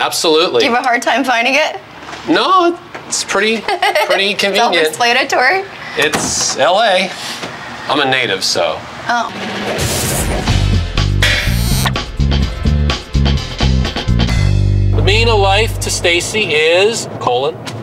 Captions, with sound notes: - Absolutely. - Did you have a hard time finding it? - No, it's pretty, pretty convenient. (laughing) - Self-explanatory? - It's L.A. I'm a native, so. - Oh. (funk music) - The meaning of life to Stacey is, colon.